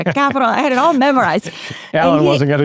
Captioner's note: laughs